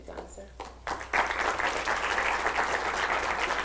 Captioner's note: applause